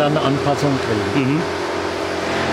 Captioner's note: loud sawing